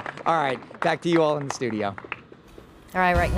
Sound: applause

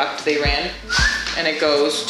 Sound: whistles

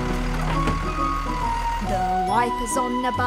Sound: motor running

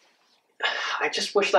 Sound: Landen sighs

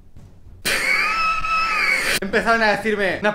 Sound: strange laugh xD

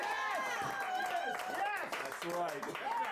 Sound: audience cheering

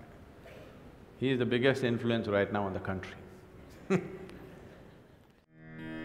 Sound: laughs

